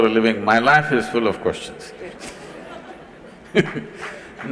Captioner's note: laughter/Applause